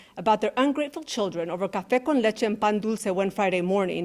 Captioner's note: speaking in Spanish